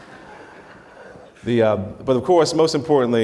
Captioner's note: audience laughter